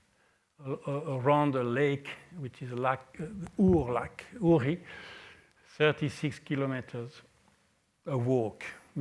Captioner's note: french